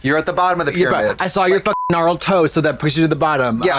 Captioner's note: beep